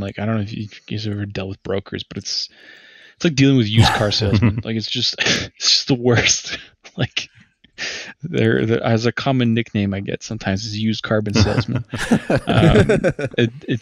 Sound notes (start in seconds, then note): 11.3 laughter